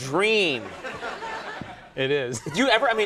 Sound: laughs

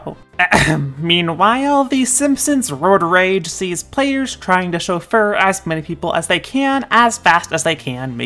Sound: ahem

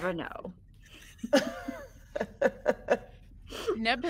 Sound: person laughing

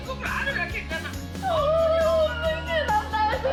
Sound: mother and daughter bawling again

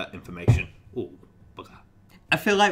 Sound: thumping

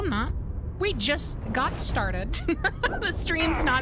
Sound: laughter

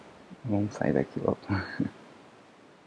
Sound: laughs

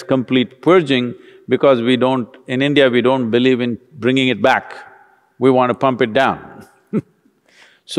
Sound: laughs

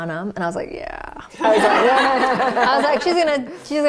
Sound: laughter

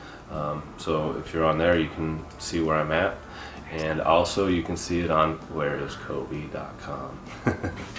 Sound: chuckles

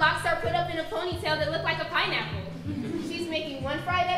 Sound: audience laughing

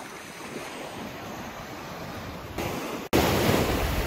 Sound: waves rushing

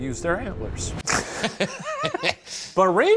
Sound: laugh

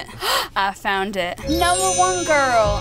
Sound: gasps

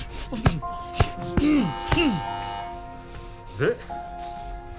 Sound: buzzer sounding

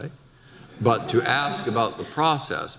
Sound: audience laughter

